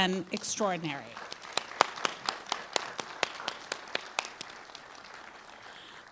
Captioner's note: applause